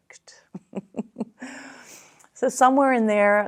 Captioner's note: laughs